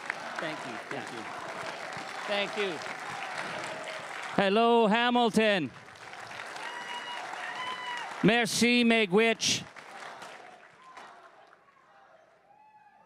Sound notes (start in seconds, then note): 8.9 chanting; 9.8 crowd cheering and applauding